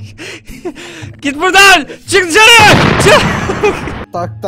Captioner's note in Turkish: Bağırarak